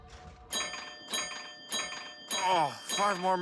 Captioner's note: bells ringing